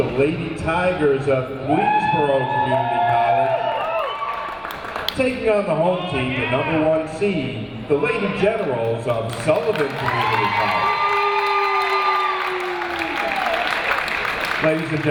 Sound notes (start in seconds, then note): 4.2 audience applauding and cheering; 11.4 audience applauding and cheering